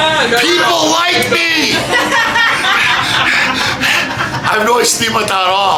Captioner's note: panting